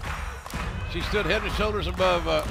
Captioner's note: clapping